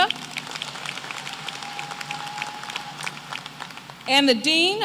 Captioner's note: applause